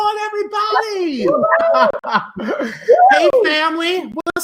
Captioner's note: cheering and laughing